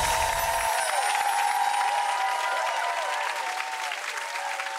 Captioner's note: chimes ringing; audience cheers